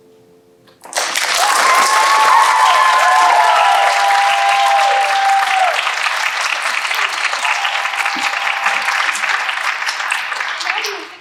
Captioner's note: applause